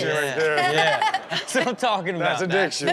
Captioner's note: Chanel laughs